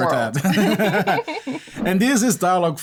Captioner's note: laughter